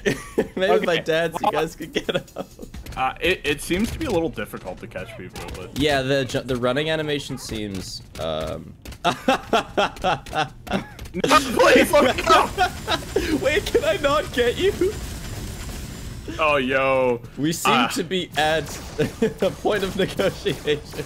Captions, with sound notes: maybe if I dance you guys can get out - i-it seems to be a little difficult to catch people yeah the running animation seems um [a menacing Laugh] - NO PLEASE FOR THE LOVE OF GOD wait can I not get you? - oh yooo we seem to be at... a point of negotiations